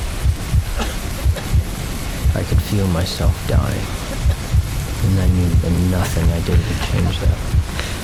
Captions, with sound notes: [coughing] 'I could feel myself dying.' 'And I knew that nothing I did would change that.'